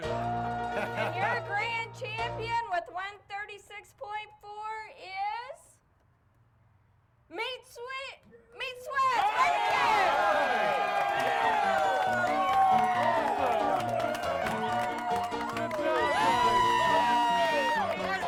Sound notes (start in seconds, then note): 8.1 crowd cheering; 11.5 upbeat piano music